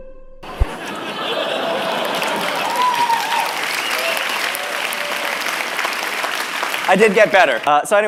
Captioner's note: applause